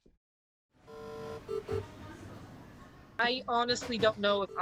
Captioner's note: monitors beeping